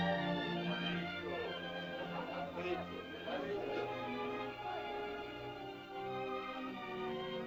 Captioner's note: uplifting music; indistinct caveman chatter; soft music